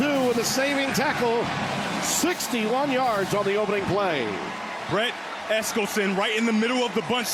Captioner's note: cheers and applause